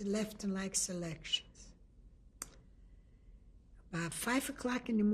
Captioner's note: pauses for 3 seconds